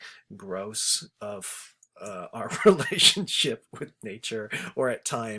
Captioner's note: chuckles